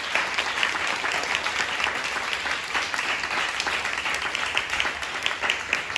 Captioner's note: audience applause